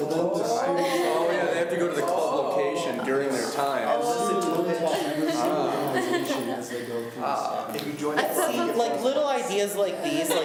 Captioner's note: students talk amongst themselves